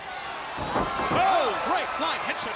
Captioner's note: crowd cheering